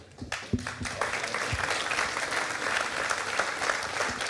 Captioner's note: audience applauding